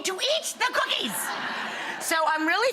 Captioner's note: audience laughs